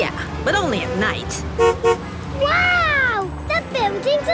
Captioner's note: honks